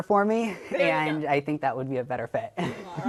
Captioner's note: chuckles